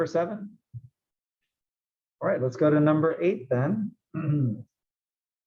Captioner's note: cough